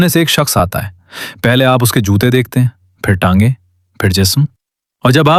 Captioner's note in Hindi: नाक से की जाने वाली आवाज़